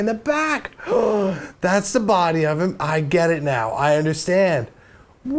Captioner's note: gasp